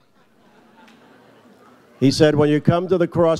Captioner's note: audience laughs